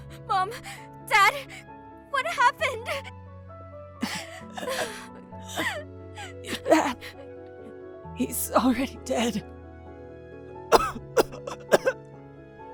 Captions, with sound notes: MOM! DAD?! W-WHAT HAPPENED!? (Struggling to breath) Your dad… He’s already dead- (Intense coughing)